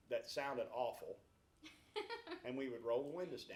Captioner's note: laughs